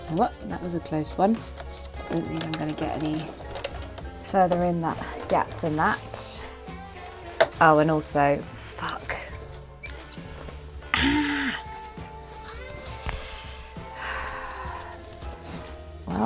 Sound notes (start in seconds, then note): 12.1 sighs